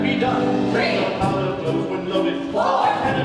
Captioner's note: chanting